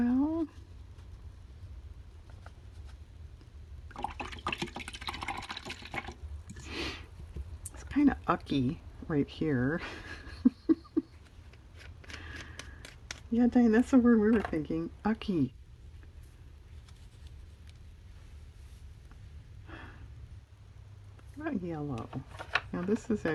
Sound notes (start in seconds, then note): 9.8 laughs